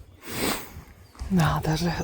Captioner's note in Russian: фыркает